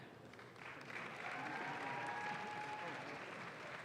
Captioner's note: audience claps